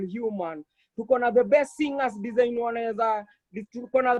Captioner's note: in foreign language